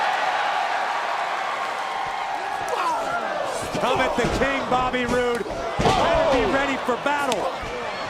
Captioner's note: crowd cheering